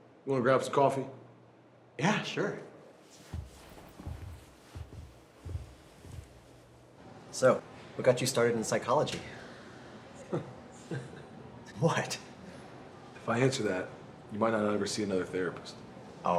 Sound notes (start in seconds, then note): 10.2 David laughs